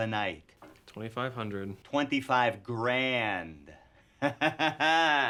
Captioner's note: laughs